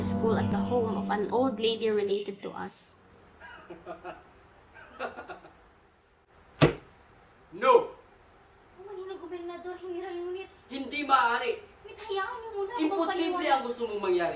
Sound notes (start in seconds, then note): 3.4 laughing hysterically; 6.6 slams table